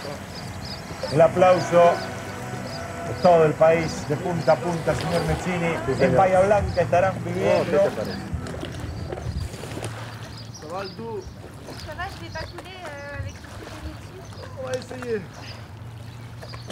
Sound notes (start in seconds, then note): 4.8 birds; 8.4 waves; 10.7 speaking in french